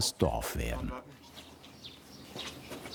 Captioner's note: birds chirping